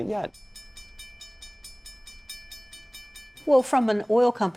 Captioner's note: train approaching